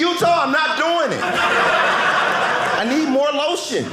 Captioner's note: audience laughing